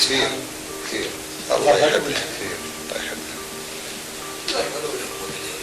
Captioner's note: all laugh